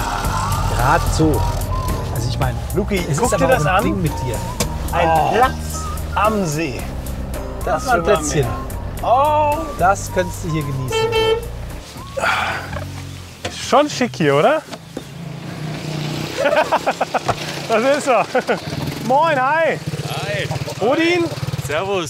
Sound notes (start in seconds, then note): 12.2 sigh; 16.3 laughs